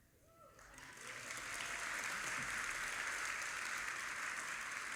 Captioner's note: audience applauding